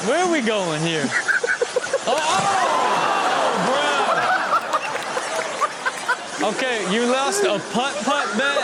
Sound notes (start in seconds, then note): 2.1 audience groans; 3.0 speaker in Video laughs